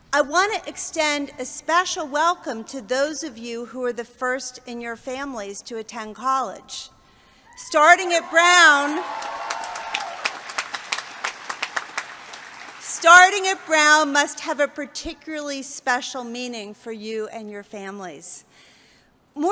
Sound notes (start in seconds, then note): 7.9 cheers